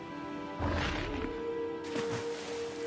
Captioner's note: air whooshing; water splashing